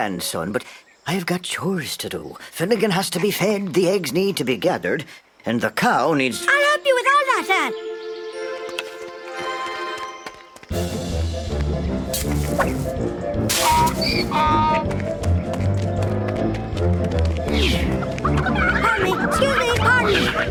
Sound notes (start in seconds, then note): 13.5 donkey brays; 17.5 chickens cluck